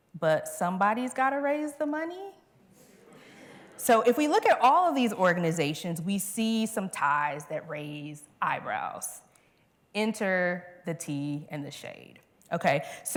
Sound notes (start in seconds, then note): 3.0 laughter